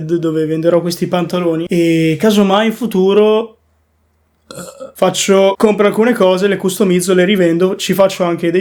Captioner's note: burp